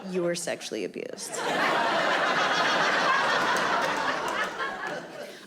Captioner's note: audience laughing